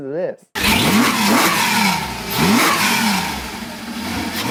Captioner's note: car engine roaring